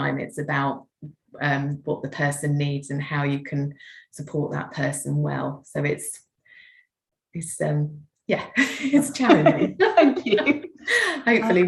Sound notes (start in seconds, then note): 8.8 laughing